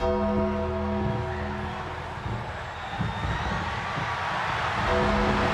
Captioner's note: ominous music continues; audience cheers